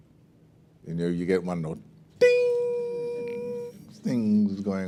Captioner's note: high-pitched voice